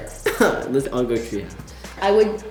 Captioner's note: laughing